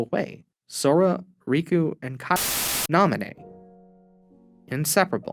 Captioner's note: static